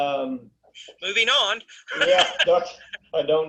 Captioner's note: laughing